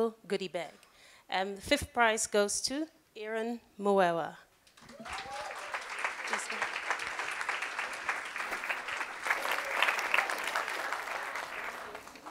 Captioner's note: applause